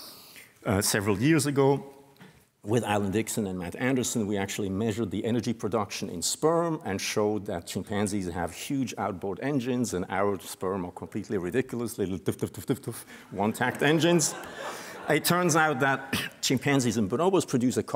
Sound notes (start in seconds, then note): 13.6 laughter